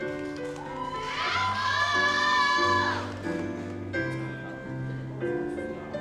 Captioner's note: audience cheers and applauds